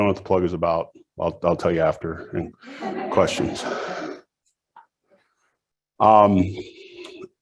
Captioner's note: audience laughs